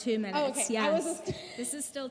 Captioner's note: laughs